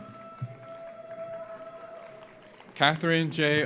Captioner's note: audience cheers; audience applauds